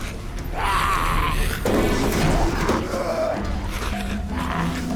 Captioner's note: zombie growls